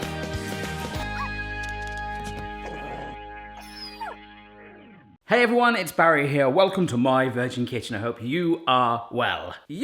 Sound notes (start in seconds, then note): 3.6 dog whining